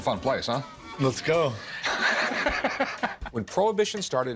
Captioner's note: laughter